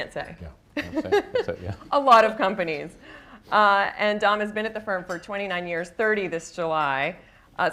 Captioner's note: laughs